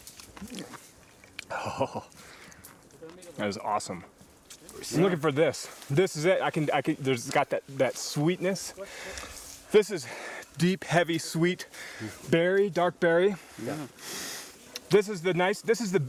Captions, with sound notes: [chuckles] Oh. That is awesome. I'm looking for this. This is it. I can-- it's got that sweetness. This is deep, heavy, sweet berry, dark berry. This is the nice--this is the--